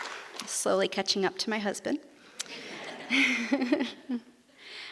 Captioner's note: laughs